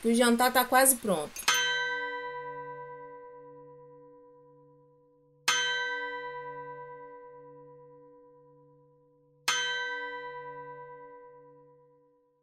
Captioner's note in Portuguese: O relógio marca a passagem da hora em algumas batidas espaçadas